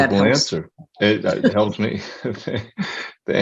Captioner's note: laughing